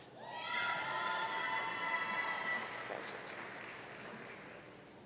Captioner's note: audience cheering